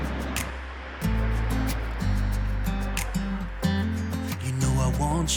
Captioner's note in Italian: Applauso